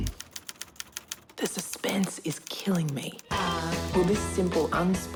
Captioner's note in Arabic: تنقر الآلة الكاتبة